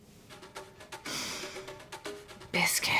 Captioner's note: sniffing